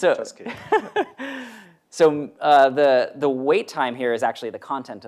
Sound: laughs

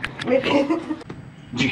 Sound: laughter

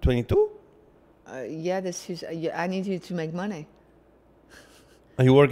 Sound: chuckles

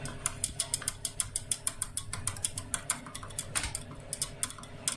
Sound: more tapping; still more tapping

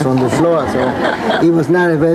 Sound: audience laughs

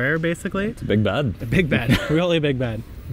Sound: chuckles

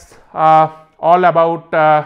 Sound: echo

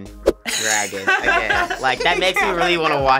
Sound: both laugh

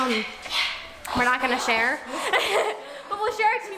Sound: laughs

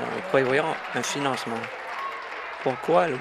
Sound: applause

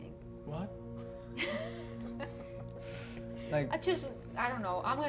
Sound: laughing

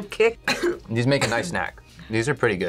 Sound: coughs

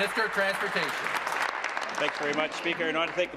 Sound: applause

